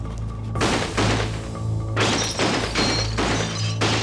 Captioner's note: gun shot